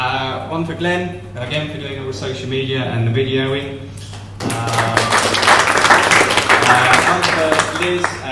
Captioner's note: applause